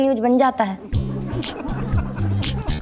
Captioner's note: laughing